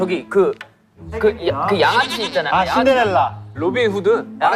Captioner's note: mispronunciation